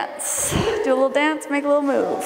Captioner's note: laughing